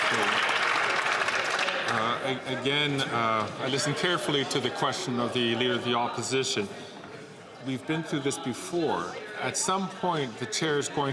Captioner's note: some Applause